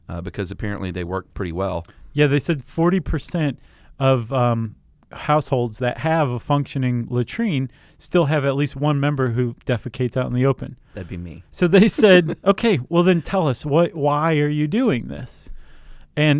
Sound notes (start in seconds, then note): 11.7 laughs